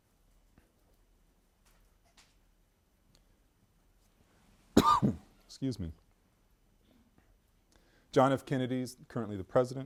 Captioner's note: coughs